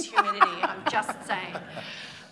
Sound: laughter

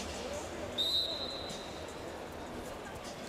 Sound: referee blowing his whistle

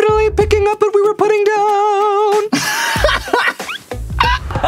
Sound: laughs

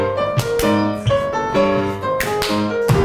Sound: clapping hands; stomping feet; classical piano music

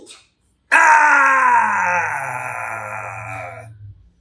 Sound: groans groanier

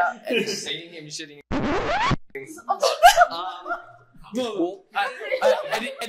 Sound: record scratch

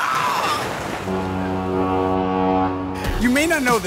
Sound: ship horn blares

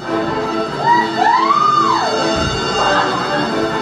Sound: bells chiming; shouting; energetic music

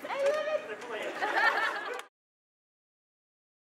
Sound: laughter

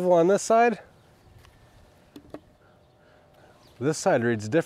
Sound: wood clunking

